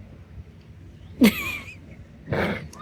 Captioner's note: laughter